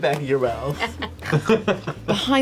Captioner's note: laughter